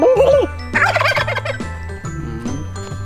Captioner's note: turkey cackles back